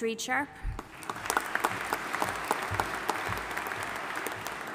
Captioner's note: audience applauding